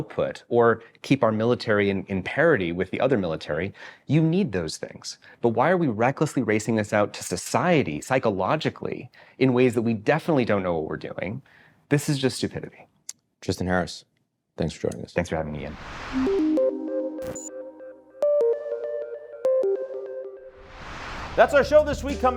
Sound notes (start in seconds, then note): 15.9 air whooshing; 16.1 light electronic music; 20.6 air whooshing